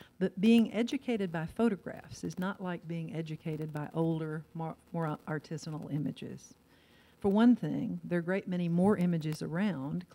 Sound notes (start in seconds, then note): none